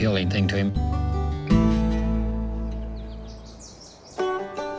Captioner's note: birds singing